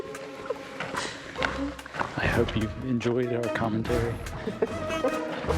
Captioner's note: laughs